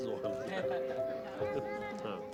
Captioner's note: indistinct chatter